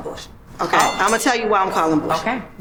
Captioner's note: boxing bell dings